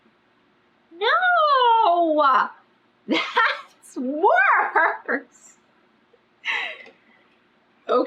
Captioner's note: laughs